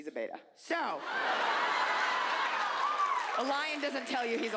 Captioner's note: audience laughs